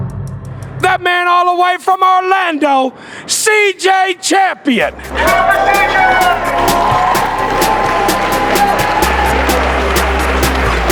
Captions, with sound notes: that man all the way from Orlando, CJ Champion. (crowd Cheering)